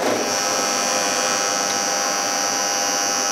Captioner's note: machine noise